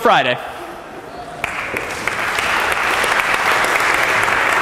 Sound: applause

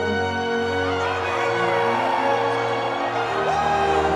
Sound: crowd cheering

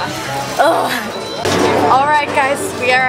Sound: groans

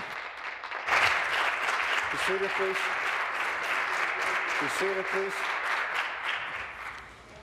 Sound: applause

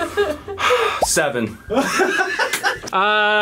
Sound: laughs; sighs; laughs

